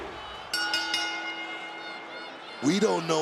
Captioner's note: bell dings